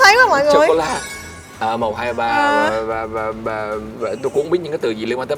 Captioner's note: counting